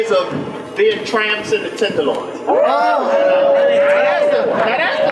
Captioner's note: audience oohs